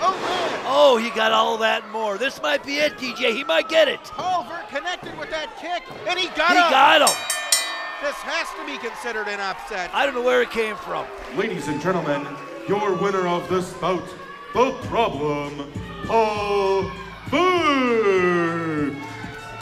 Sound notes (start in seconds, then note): 6.8 bell rings; 17.2 hip hop music